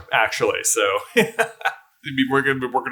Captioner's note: hearty chuckle